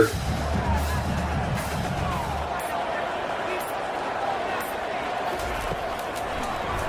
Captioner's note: crowd Noises